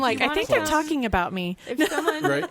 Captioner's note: laughs